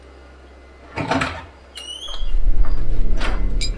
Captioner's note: door opens